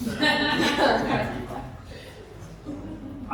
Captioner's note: laughter